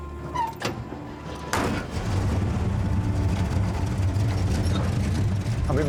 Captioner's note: engine starts